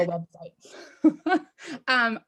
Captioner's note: laughs